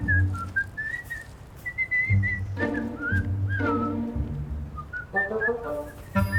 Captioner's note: playful music; whistling